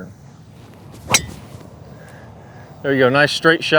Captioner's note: golf club striking golf ball